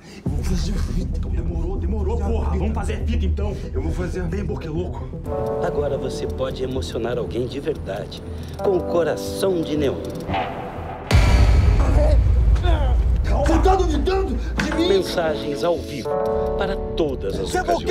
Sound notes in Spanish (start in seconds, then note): 10.3 estallido; 11.1 gemido